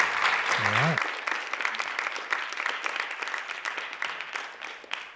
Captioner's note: applause